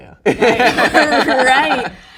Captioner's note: laughs